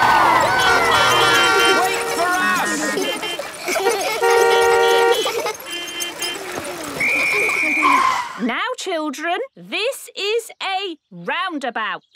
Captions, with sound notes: Go, go! (beeping) - Wait for us! (laughter) (beeping) (laughter) (whistle blowing) - Now, children, this is a roundabout.